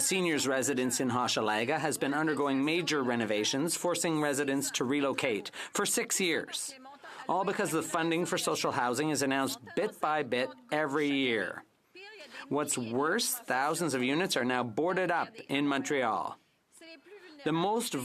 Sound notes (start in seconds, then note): 2.9 speaking French